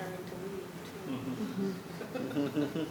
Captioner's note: laughter